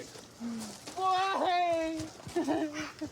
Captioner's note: sobs